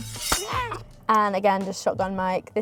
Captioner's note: sword swooshing